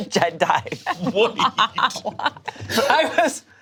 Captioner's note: group laughs